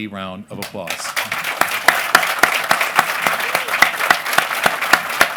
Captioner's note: applause